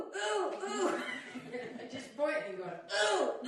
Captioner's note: laughter